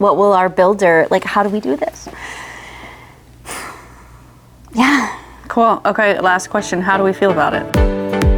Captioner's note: sighs